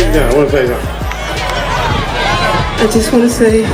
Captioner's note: crowd cheering